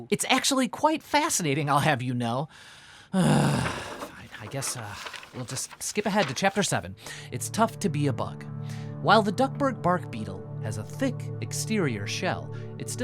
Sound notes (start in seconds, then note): 3.1 groans